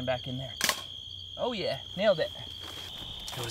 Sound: snap

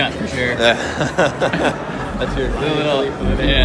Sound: laughter

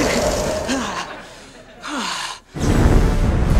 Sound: moaning; gasping

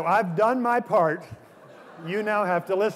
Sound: laughter

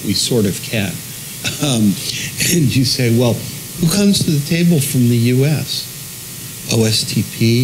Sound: laugh

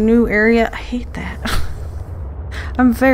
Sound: laughs

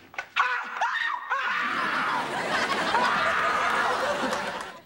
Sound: screaming

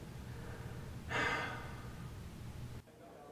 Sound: sighs

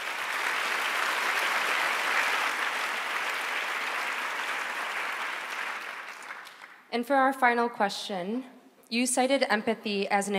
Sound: applause

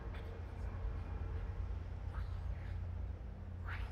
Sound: creepy whispering

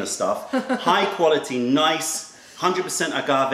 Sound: laughter

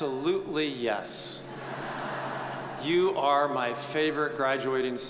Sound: audience chuckles

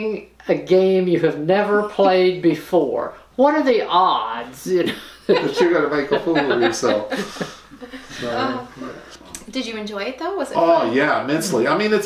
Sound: laughter

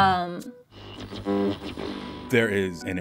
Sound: electric buzzing

